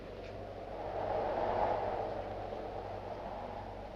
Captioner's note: wind howls